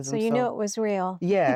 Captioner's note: giggling